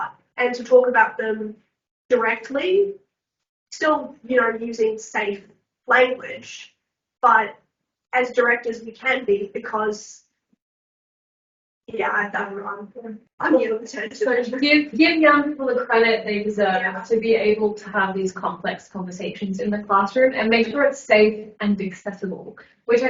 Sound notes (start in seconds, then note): 13.4 mumbling